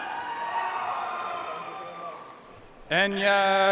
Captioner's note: audience cheering and applauding